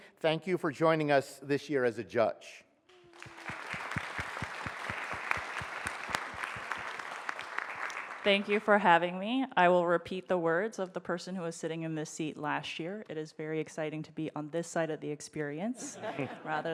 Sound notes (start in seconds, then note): 2.9 audience applauds